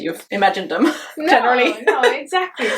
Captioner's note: chuckles